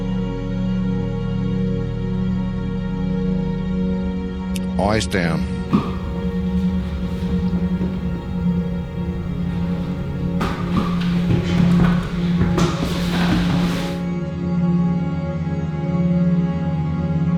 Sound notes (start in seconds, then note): 2.0 enthralling atmospheric music continues; 11.0 feet shuffling